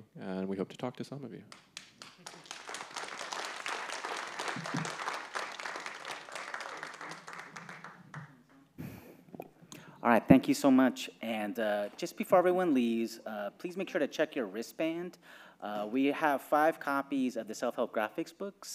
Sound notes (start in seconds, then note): 1.5 audience applauding